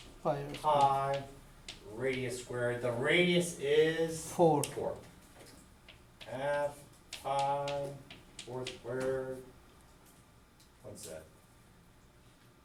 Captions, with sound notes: Half, pi, radius squared, the radius is-- - [Voiceover] Four. - Half, pi, four squared, what's that?